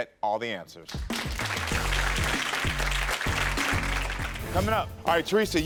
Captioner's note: audience applauds